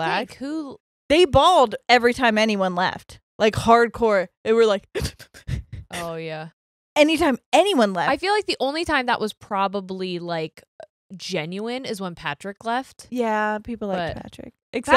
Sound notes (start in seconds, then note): 4.9 cries